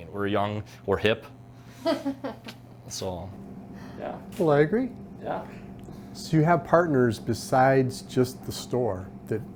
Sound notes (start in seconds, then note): 1.8 laughs